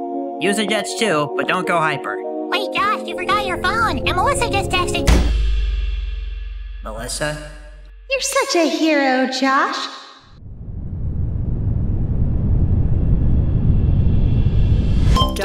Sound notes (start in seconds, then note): 5.0 impact; 10.3 ominous buildup